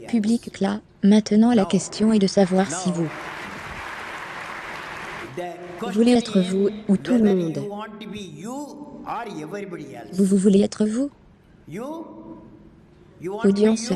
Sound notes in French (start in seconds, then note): 2.7 public claps